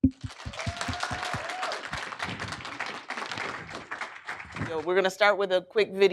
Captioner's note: applause